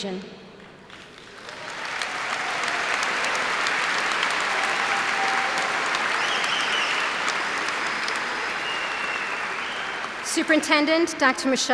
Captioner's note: cheers and applause